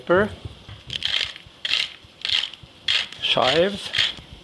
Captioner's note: grinder grinding